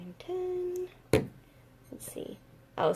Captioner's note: thud